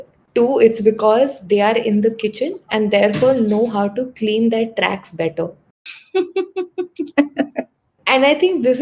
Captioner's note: laughs